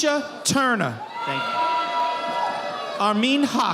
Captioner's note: audience applauding